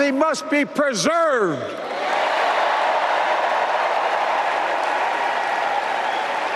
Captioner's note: applause